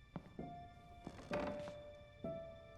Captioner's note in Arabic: خطوات; صرير الأرض